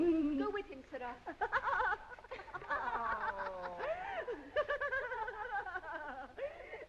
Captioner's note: girls giggling